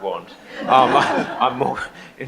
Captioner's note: audience laughs